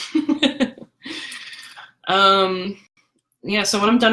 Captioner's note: laughter